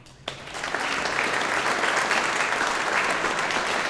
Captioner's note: audience applauding